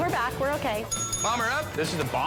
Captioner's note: bell dings